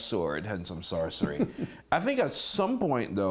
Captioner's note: laughter